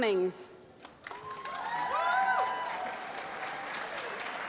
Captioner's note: applause